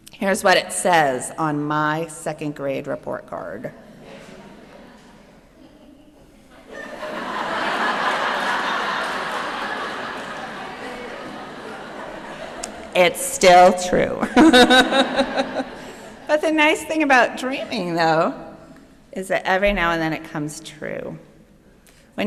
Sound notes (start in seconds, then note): 7.1 laughter; 14.2 chuckling